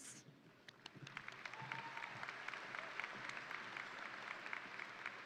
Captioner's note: crowd applauding